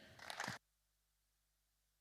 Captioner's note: applause